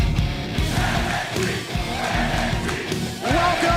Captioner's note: fans chanting